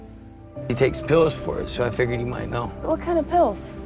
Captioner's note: voiceover